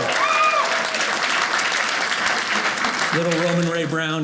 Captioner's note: audience applauding